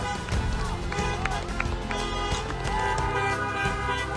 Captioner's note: car horns beeping; neighbors clapping; car horns beeping